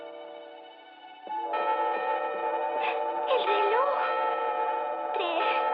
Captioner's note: clock Chiming